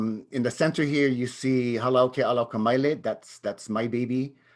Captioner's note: speaks in native language